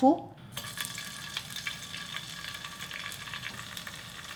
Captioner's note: tofu sizzling